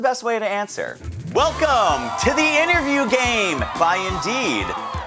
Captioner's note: audience cheering